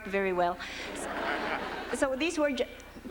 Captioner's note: laughter